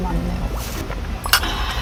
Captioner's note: slurp